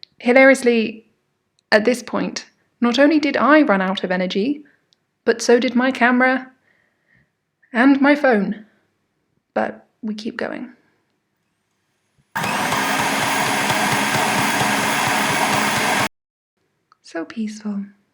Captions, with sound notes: Hilariously, at this point, not only did I run out of energy, but so did my camera... and my phone... but wekeep going. *Stand mixer whirring* So peaceful.